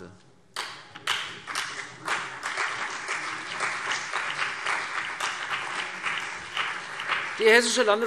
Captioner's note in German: Beifall CDU und BÜNDNIS 90/DIE GRÜNEN